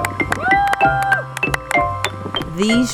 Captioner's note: cheers